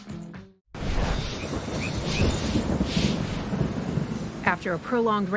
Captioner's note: thunder rumbling